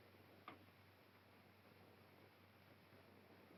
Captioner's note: light switch clicks